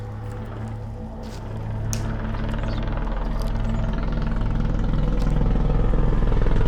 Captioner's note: dramatic music; helicopter chopping